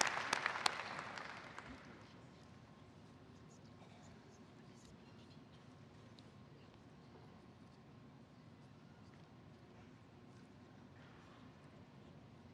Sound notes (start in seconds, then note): 1.9 applause